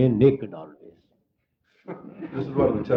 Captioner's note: laughter